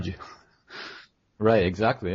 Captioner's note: chuckle